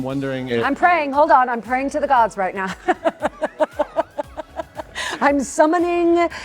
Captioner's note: laughs